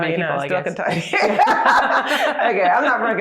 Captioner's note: laughter